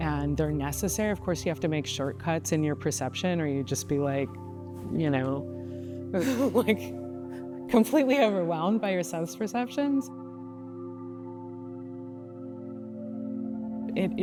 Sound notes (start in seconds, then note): 6.2 laughs; 11.2 contemplative music